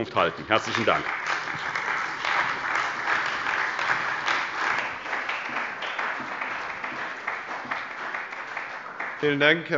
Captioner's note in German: Beifall bei der CDU und dem BÜNDNIS 90/DIE GRÜNEN